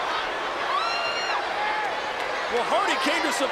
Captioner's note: crowd cheers and shouts indistinctly